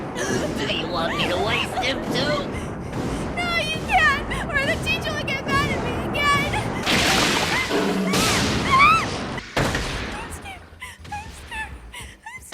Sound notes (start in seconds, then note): 0.0 crashing noises on clip; 0.0 grunting, gasping; 6.9 growling; 6.9 screaming